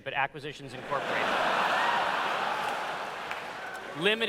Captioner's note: laughter